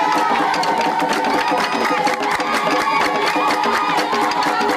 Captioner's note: crowd cheering